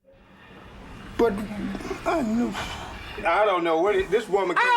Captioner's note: sighs